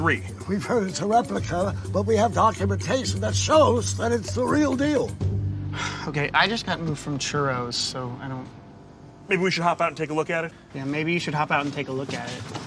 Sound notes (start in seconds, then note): 5.7 sighs